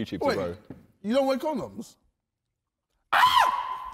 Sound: screams

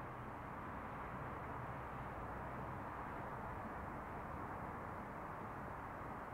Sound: distant city sounds

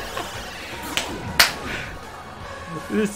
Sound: clap clap

